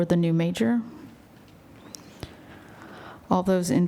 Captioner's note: silence